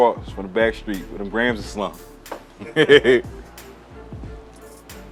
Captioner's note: laughing; dramatic rhythmic music